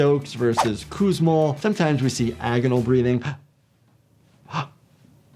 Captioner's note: gasping